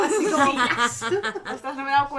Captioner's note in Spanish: risas